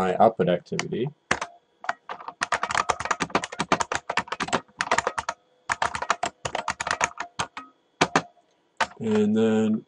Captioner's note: typing